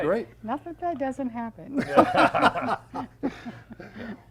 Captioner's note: laughs